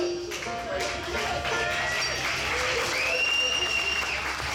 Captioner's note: audience cheering